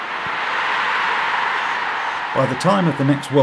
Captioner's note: crowd roaring